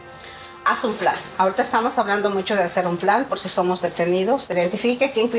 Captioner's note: speaking in Spanish